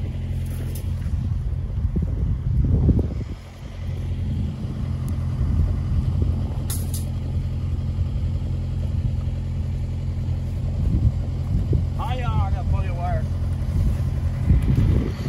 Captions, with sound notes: (wire clattering) - Our yard is now fully wired.